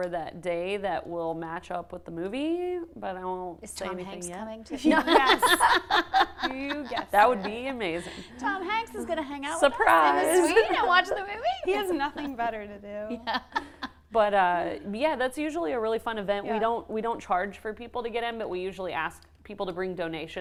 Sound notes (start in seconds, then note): 4.8 laughter